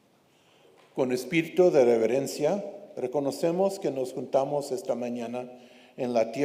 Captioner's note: speaks in foreign language